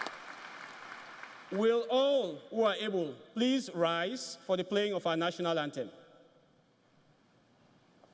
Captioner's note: applause